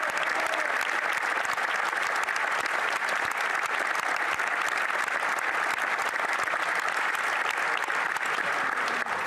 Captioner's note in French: applaudissements